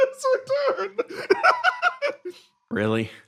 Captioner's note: laugh; laughing